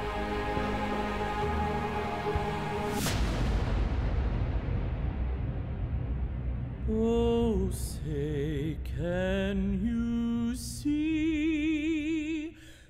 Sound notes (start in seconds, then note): 0.0 somber music; 2.9 boom; 7.0 acapella